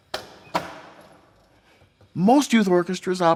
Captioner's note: chairs shuffling